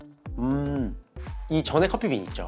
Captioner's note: mmm~